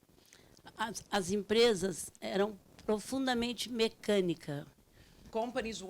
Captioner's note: speaking Portuguese